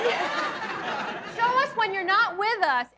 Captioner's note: audience laughs